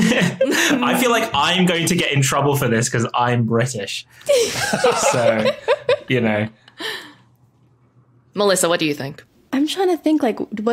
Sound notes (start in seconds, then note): 4.3 others laughing